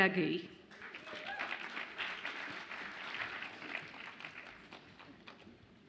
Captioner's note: audience applauds and cheers